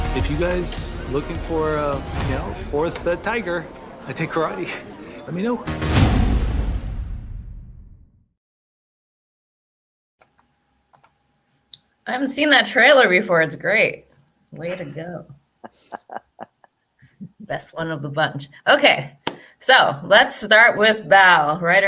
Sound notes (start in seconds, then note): 5.5 dramatic music; 10.9 mouse clicking; 15.6 giggles